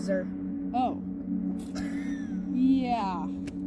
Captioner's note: laughing